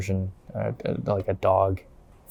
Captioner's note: mumbles